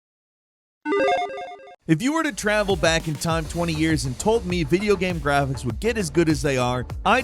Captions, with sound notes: (video game sound effects) - If you were to travel back in time 20 years and told me video game graphics would get as good as they are,